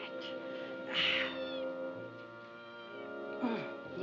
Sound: cat meows

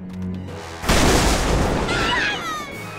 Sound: screaming

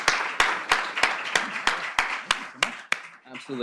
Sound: applause

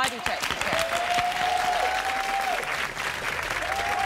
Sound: cheering

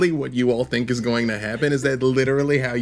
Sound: chuckling

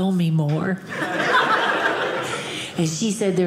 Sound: audience laughing

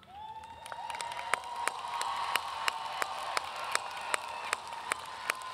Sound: audience cheering and applauding

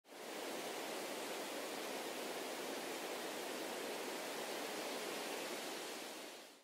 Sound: wind blowing gently

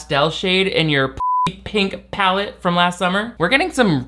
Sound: beep

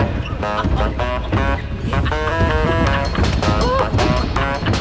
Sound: moves into lighthearted upbeat music; laughing

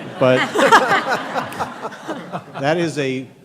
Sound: laughter

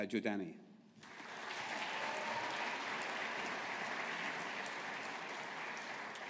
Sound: audience applauding

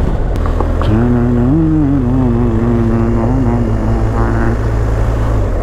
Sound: humming

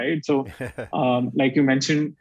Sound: chuckles

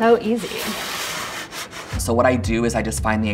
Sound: wood scraping

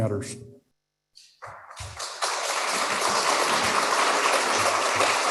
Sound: applause

